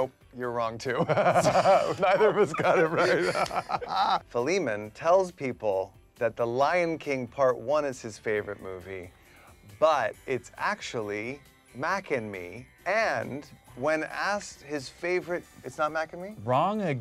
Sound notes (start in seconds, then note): 0.9 Michael and Philemon laugh